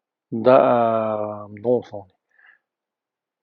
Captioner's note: tibetan